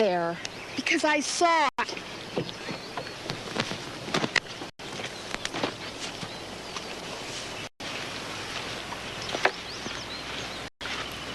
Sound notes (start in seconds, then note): 7.8 birds chirping